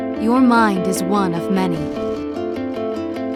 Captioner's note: voiceover; calm music